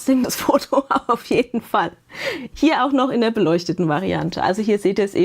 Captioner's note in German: gelächter